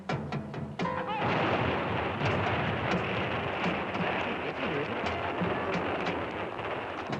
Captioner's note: suspenseful music; man shouts; gun thuds